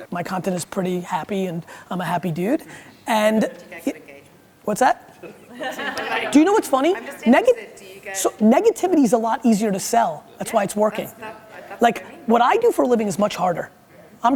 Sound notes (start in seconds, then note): 5.2 laughing